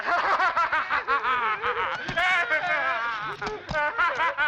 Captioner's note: laughing; moaning